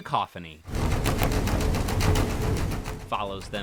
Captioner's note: boat engine whirring